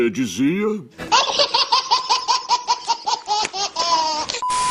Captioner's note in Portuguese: Risada